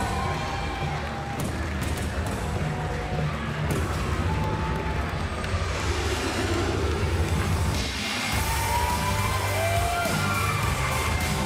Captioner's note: crowd cheering